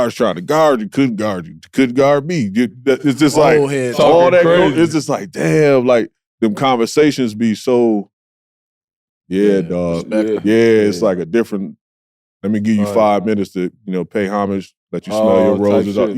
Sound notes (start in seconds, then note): 3.3 group chattering